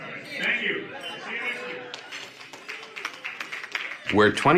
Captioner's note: applause